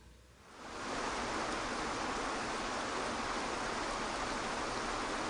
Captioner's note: water splashing